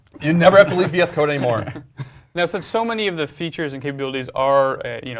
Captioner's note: laugh